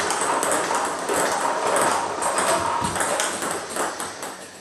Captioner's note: ball ping pong hitting continues